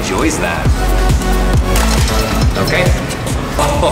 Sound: upbeat electronic music; metal clattering

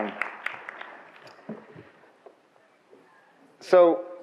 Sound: audience applauds

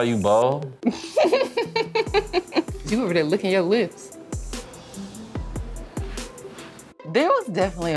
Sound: laughs

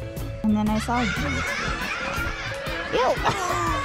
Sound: laughs

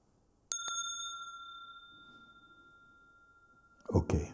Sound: Mooji rings the bell

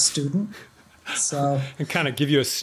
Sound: chuckle

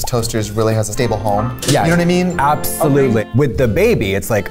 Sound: none

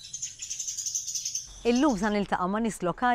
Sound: birds chirping

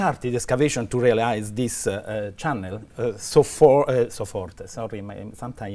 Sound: speaking german

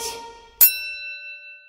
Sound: ding!

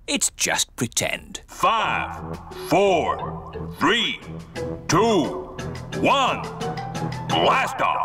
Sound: on speakers

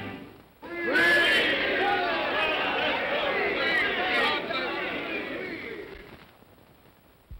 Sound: indistinct cheer

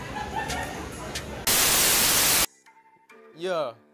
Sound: TV static

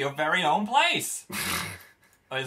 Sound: laughs

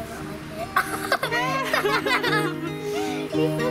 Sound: laughing

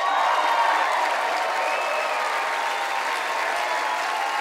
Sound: cheering and applause

